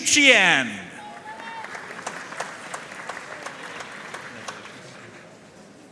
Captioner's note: audience cheering and applauding